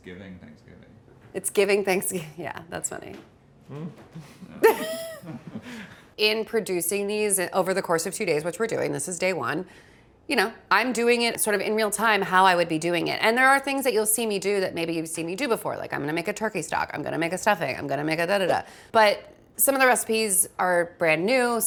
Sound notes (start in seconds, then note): 4.1 laugh